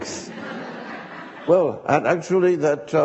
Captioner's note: audience laughing